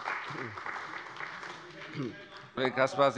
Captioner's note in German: Beifall bei der CDU